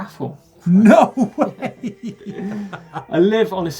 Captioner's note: laughing